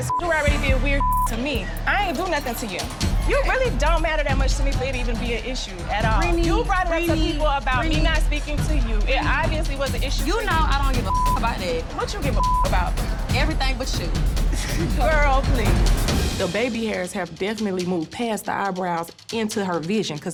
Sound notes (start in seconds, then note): 5.5 tense dramatic music; 14.4 laughs; 15.6 tense dramatic music